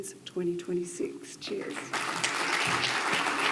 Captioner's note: audience applauds